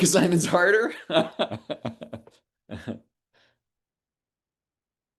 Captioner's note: laughs